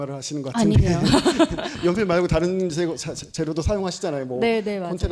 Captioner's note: laughs